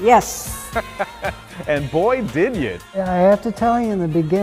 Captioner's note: chuckling